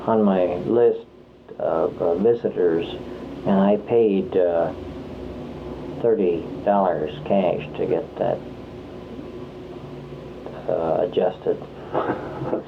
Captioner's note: laughter